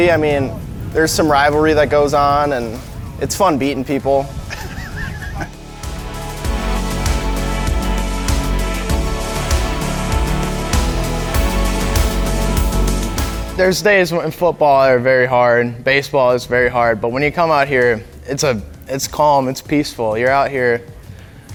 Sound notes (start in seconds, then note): 9.4 laughs; 13.5 steady music continues